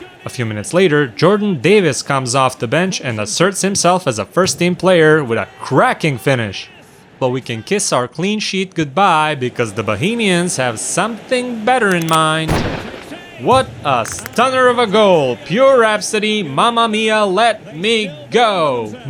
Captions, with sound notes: A few minutes later, Jordan Davis comes off the bench and asserts himself as a first-team player with a cracking finish. But we can kiss our clean sheet goodbye because the Bohemians have something better in mind... [gun cocking] [gun fires] What a stunner of a goal! Pure rhapsody... "Mamma mia, let me go!"